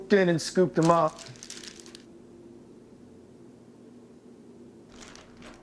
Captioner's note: plastic rustling